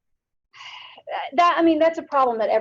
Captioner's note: sighs